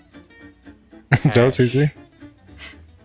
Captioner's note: chuckling